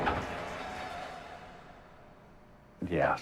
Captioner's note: fade to silence